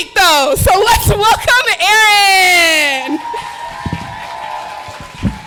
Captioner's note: applause